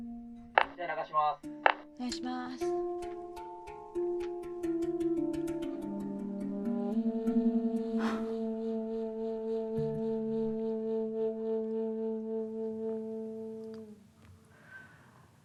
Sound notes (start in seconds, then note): 0.1 gentle thoughtful music; 1.6 movie cast and crew speaking in foreign language; 7.9 sighing; 10.9 gentle thoughtful music continues